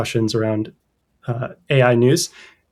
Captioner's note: uh